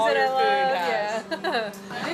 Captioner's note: laughs